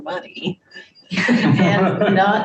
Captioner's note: group laughs